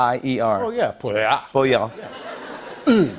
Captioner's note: French accent